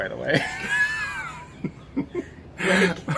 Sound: laughing

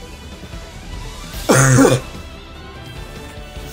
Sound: cough

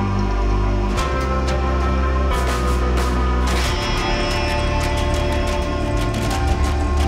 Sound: machine whirring; old western music

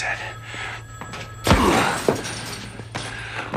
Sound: phone rings

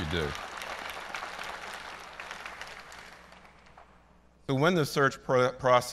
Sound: applause

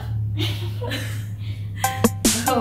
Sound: laughter

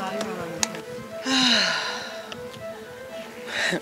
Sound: big deep breath

